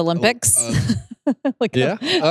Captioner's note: laughs